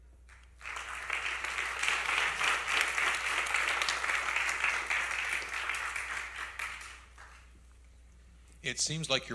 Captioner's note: applause